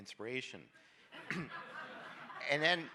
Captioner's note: audience laughs